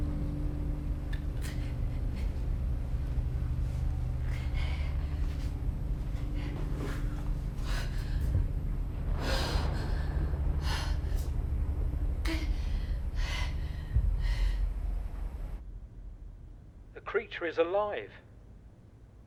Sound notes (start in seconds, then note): 4.1 Belle panting; 8.3 thunder cracking; 9.1 Belle panting